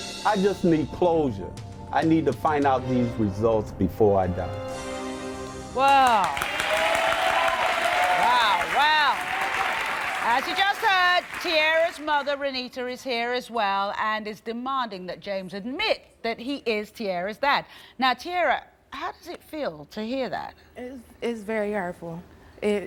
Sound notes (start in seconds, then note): 5.9 cheering